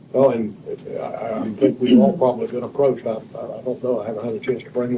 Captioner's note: clears throat